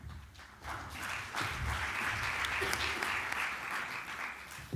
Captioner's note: applause